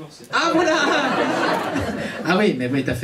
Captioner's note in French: rires public